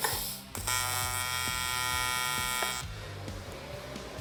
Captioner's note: welder buzzing